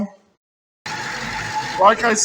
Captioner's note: engine idling